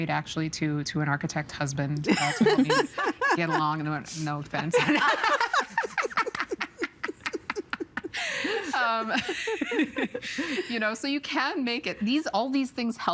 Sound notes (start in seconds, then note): 0.1 laughing; 4.7 all laughing; 9.1 laughing